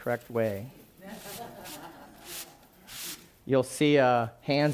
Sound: laughing

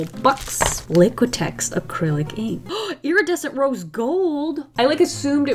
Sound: gasps

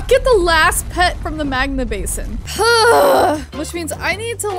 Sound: grunts

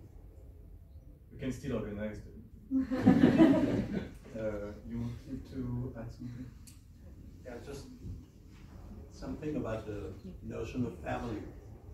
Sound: laughs

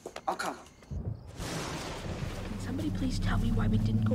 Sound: thunder

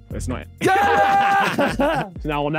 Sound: laughing

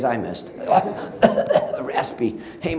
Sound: coughing

